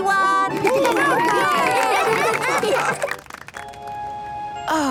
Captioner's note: cheering, applause